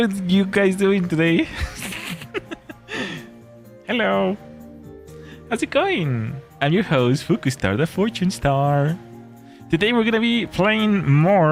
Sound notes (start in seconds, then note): 1.3 laughter